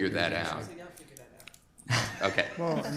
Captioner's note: laughs